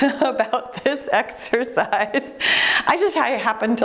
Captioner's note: giggling